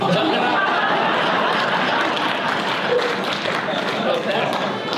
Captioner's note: audience laughter